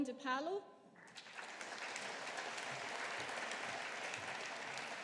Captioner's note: audience applauding